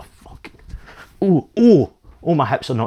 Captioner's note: out of shape noises